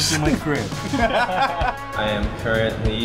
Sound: laughter

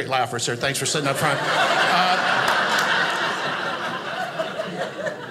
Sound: audience laughing

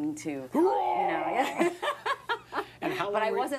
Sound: mimics vomiting sound

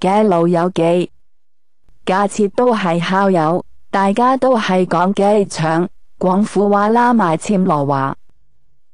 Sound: ภาษา กวางตุ้ง

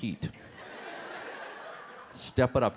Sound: audience laughs

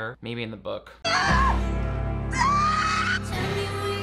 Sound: Bella screams

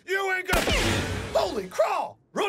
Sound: gun Shot

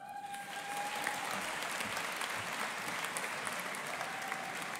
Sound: audience applauding

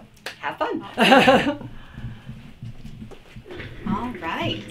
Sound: laughs

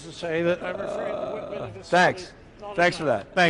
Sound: speaking off mic

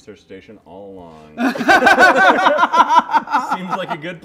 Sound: laughter

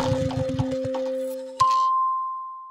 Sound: dinging

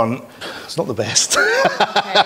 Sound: laughs

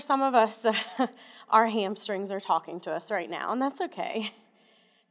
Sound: laughter

